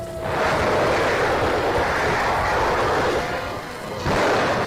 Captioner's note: fire hissing; cannon booms; artillery blasting